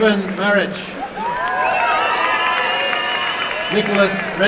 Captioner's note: applause and cheering